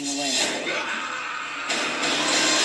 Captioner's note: screaming